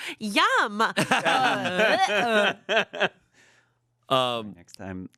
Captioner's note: everyone laughs